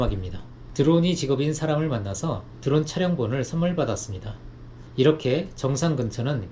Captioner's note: drone